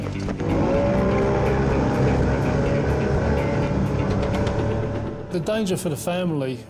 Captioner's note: boat buzzing; light intense music